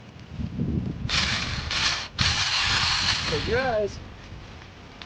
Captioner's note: drill whirring